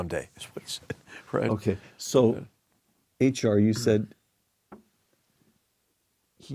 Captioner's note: laugh